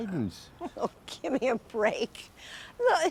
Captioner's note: Miriam chuckling